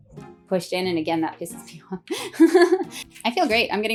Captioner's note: laughing